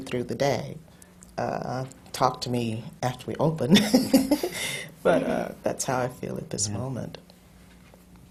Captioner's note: laughs